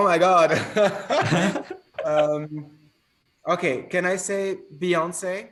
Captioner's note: laughs